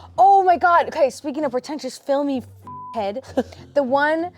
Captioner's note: beep